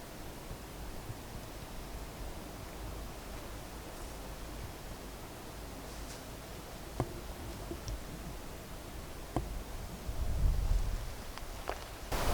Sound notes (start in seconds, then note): 7.0 wood knocking